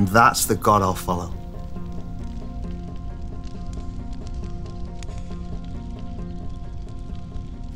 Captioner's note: fire crackling; pensive music continues